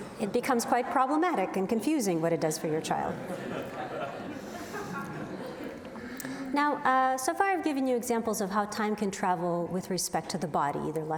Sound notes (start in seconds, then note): 3.1 audience laughs